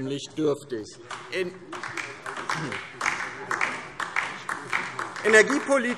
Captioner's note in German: Beifall DIE LINKE